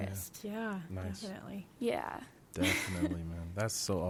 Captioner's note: laughs